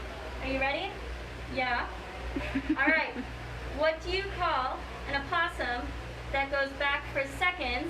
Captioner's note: laughs